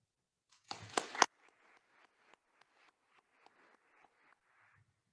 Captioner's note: attendees applauding